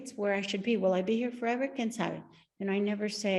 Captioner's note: speaks Spanish